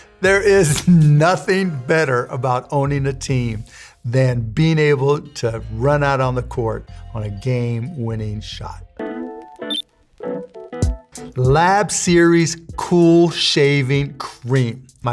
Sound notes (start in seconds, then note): 9.6 beeping; 10.2 upbeat music